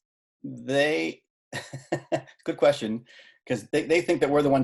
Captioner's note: chuckling